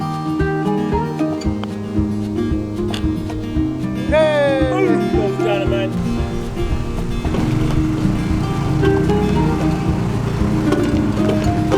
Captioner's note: laughter